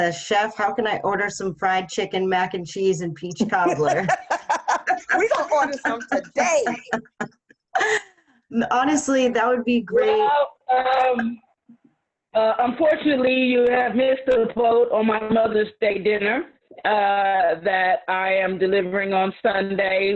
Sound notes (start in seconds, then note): 3.4 laughing; 3.4 laughs